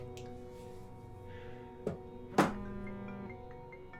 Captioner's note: phone rings